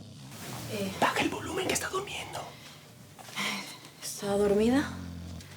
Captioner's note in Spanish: Cierra puerta; Susurra